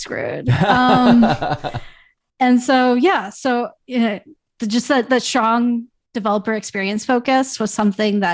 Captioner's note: laughter